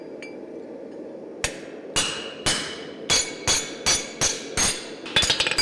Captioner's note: sharp metallic hammering